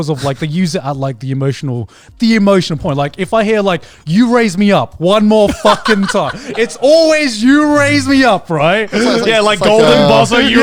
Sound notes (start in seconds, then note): 5.4 laughing